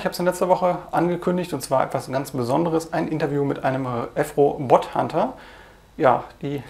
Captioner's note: german language